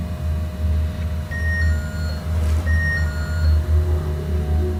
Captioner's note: the motion sensor rings